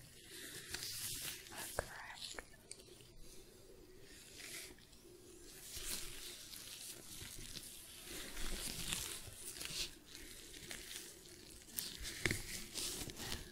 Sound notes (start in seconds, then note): 4.0 shuffling, glove sounds